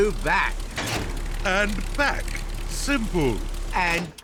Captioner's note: lever clunks